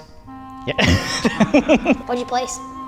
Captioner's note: laughs